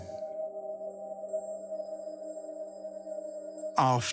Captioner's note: chime sounds